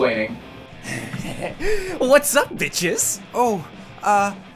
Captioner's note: weird breathing